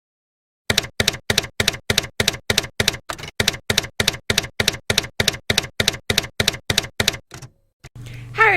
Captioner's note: typewriter keys clacking